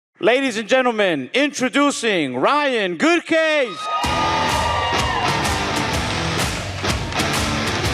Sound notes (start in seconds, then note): 3.6 audience cheering; 4.0 upbeat music